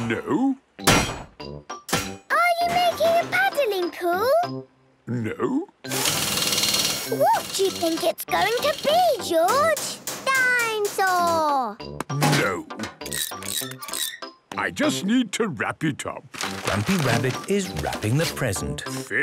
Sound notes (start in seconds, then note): 5.9 drilling; 13.0 wrenching, squeaking